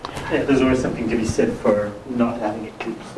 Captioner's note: voiceover